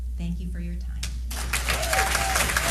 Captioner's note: applause